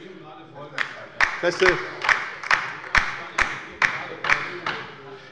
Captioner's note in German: Beifall bei der LINKEN